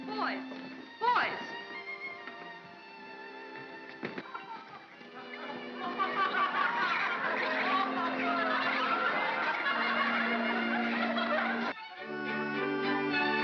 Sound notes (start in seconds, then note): 2.6 soft music; 5.4 laughter; 5.9 soft music; 11.7 upbeat whimsical music